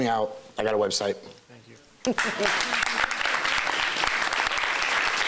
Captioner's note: applause